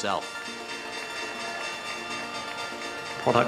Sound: Stock Market Bell Ringing

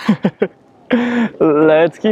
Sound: laughs

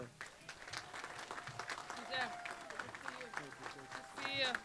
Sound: applause

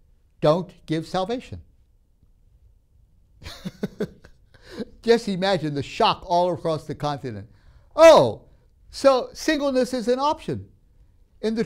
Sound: laughs

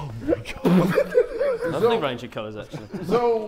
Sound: Sidemen laughing

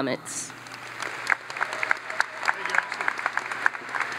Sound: audience applauds

